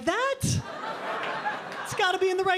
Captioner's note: audience laughing